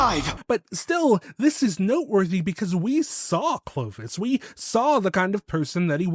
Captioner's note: saw